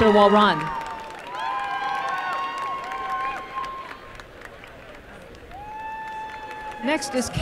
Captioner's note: applause and cheering